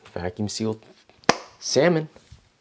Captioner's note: clap